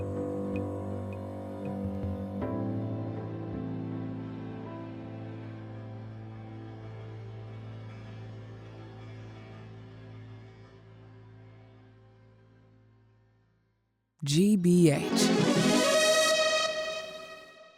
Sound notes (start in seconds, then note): 14.3 voiceover; 15.0 bright music